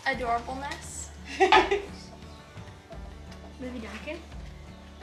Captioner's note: laughing